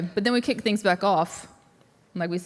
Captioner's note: none